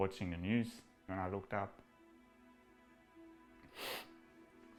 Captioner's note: sniffs